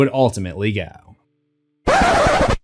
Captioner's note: record Scratch